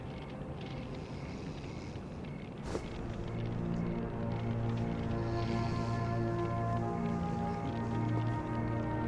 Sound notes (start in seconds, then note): 1.7 snoring; 4.3 somber orchestral music